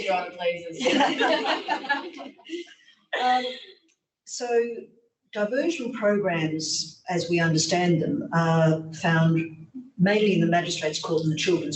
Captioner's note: laughter